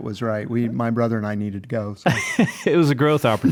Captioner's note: laughs